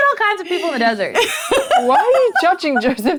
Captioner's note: laughing